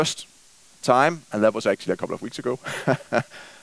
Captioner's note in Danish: laughs